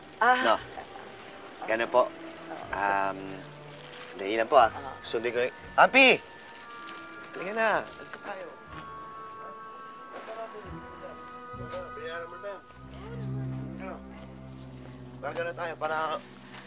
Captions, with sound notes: -Oh. -Is that okay? -All right. -Um... Hang in there for a second. I'll pick up... Pampi! Let's go, we're leaving. [indistinct chatter] -Did you pay already? -Of course. We got to go...